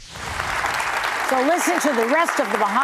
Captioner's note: audience applauding